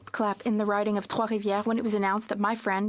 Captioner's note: speaking French